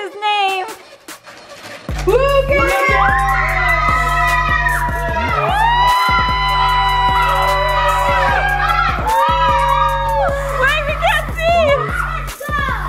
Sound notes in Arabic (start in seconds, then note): 3.0 هتاف متحمس